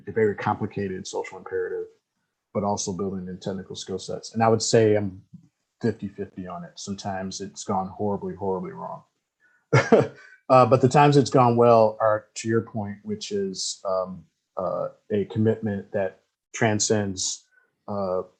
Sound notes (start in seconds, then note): 9.7 laughs